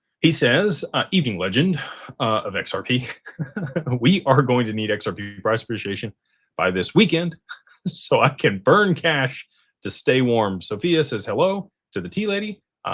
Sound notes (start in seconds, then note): 3.0 laughter